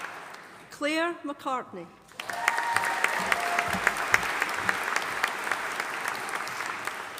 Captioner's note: audience applauding